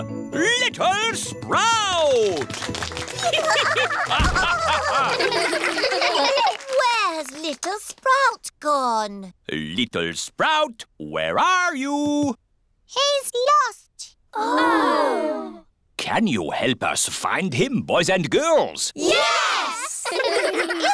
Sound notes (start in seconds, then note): 2.0 applause; 3.2 all giggling; 19.9 giggling